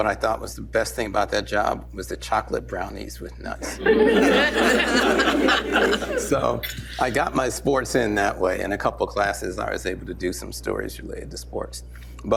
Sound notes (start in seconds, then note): 3.6 laughter